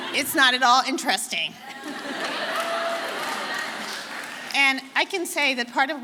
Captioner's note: audience laughing